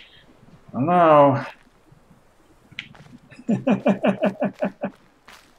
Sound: chuckles

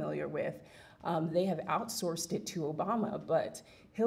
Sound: none

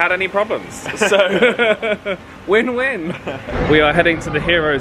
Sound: laughs

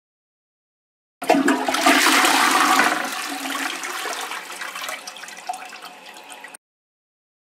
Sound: sound of toilet flush

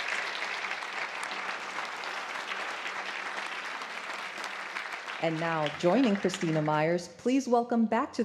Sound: applause

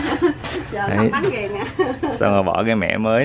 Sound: laugh

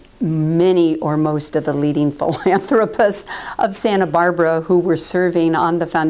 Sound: laugh

